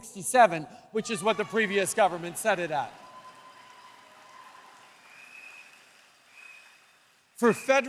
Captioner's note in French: Applaudissements